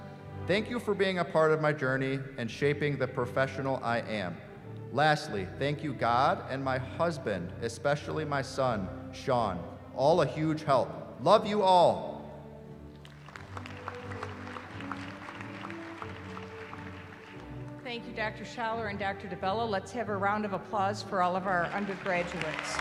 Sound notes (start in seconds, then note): 13.0 applause; 21.8 cheering